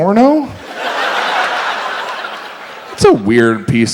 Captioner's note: audience laughs